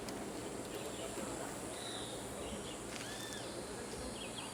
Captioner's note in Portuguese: pássaros cantando